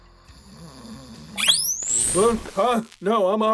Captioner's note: electric shock